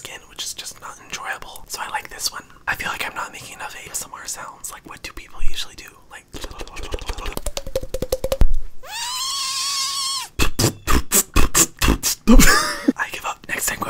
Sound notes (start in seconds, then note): 6.3 slurping tongue; 9.0 whistling; 10.4 popping lips